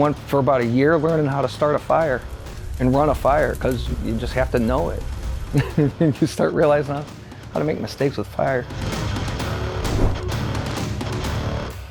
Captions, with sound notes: I went for about a year learning how to start a fire and run a fire 'cause you just have to know it (laughs) and you start realizing how to make mistakes with fire. (upbeat music)